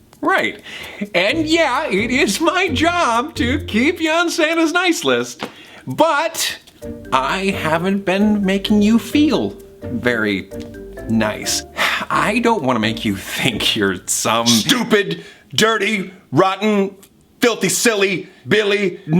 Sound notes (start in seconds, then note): 11.6 sighs